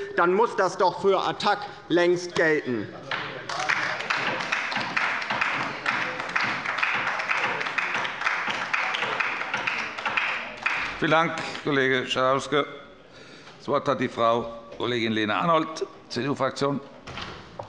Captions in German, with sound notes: dann muss das für Attac doch längst gelten. [Beifall bei der LINKEN] Vielen Dank, Kollege Schalauske. - Das Wort hat Frau Kollegin Lena Arnoldt von der CDU-Fraktion.